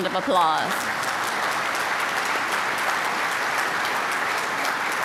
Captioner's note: applause